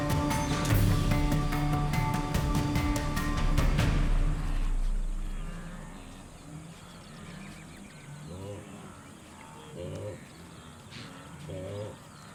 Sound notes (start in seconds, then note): 0.0 suspenseful music; 6.5 wildebeest grunting